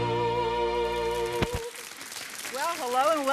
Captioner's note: audience applauding